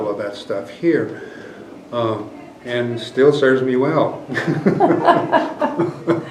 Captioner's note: laughter